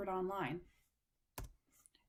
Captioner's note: click